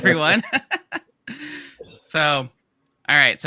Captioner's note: laughs